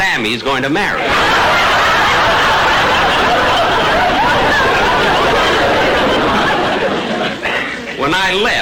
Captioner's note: audience laughter